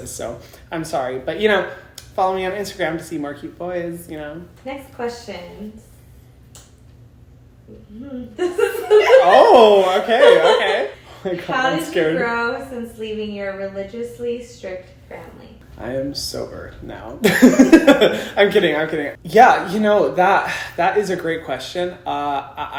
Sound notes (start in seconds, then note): 8.4 laughs; 17.3 laughs